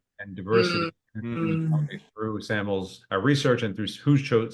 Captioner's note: murmurs